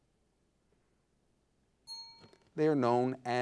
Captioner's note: signal dings